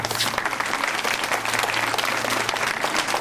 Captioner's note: applause